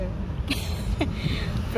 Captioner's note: giggles